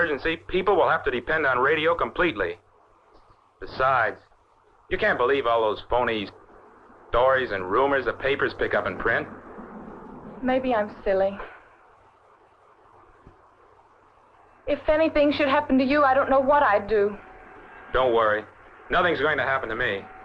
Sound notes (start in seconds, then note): 12.3 sighs; 18.8 train rumbling